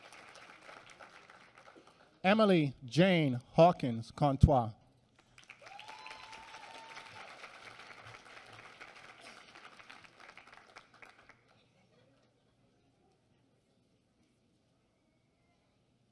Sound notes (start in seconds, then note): 5.2 applause